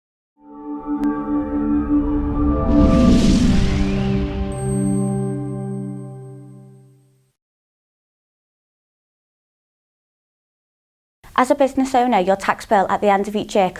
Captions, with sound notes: (melodic sting) (bell dinging) - As a business owner, your tax bill at the end of each year